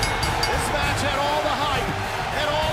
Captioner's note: bell